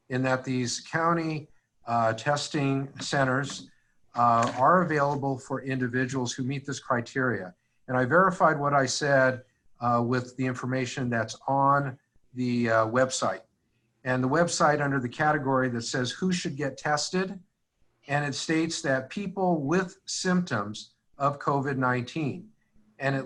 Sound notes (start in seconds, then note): none